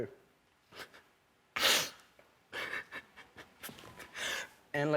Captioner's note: sobbing quietly